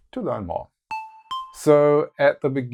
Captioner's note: notes sound